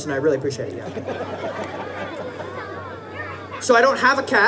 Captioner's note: audience laughing